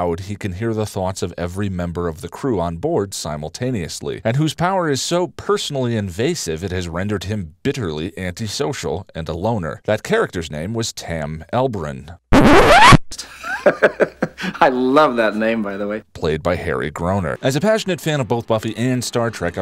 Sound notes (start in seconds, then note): 12.3 record scratch; 13.2 Mayor-ly laugh